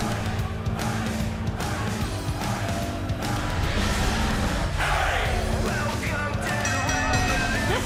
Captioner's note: fans chanting; bell ringing